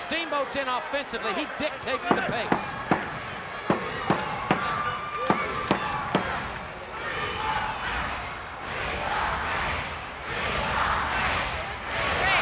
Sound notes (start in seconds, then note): 3.4 crowd stomping rhythmically